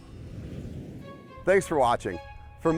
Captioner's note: whooshing